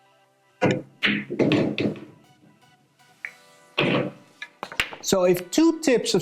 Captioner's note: pool balls clacking and thudding